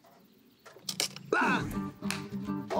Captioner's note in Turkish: Bağırıyor